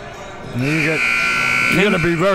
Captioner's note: clock buzzes